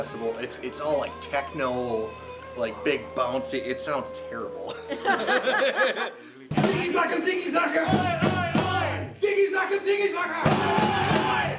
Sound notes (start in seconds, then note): 4.6 everyone laughs; 6.4 band yelling and crowd responding